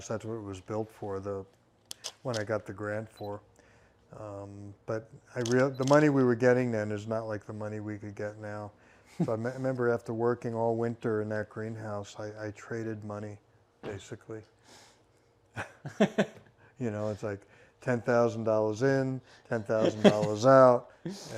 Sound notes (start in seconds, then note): 15.5 laughing